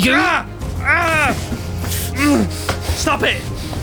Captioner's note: groaning